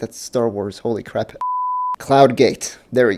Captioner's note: beep